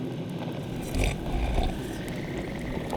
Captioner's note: sips